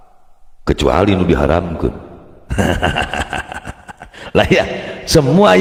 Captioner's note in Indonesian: tertawa